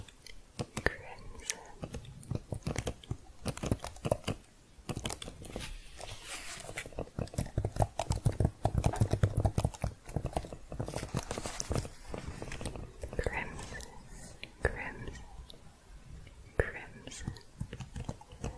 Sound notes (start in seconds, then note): 0.0 typing sounds; 2.9 typing continues